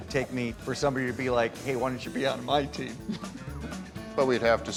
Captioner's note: chuckles